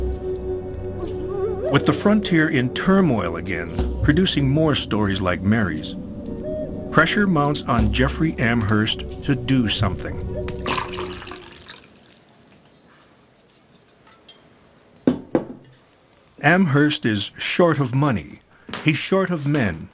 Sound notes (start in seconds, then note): 10.6 liquid pours; 13.9 decanter clinks